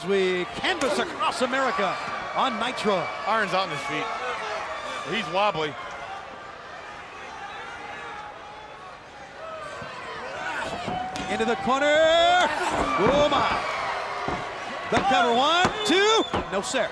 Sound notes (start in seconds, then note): 8.1 crowd chatter